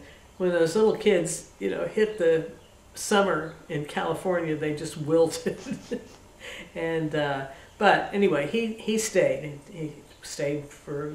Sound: laughter

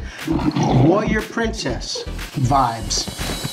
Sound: lion roaring

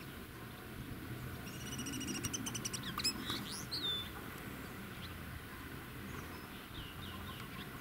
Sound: birdsong

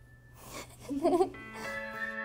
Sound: giggles

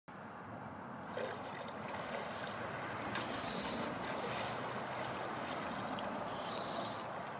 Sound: sound of net moving through water

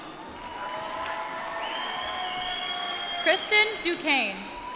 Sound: applause

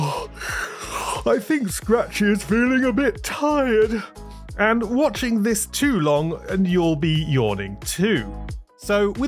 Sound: yawn

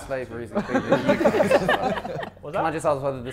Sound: Sidemen laughing

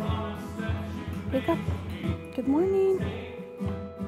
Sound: speaking Spanish; guitar music continues

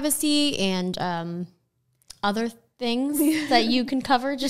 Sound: laughing

